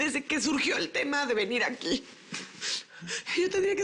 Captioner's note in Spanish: Sollozos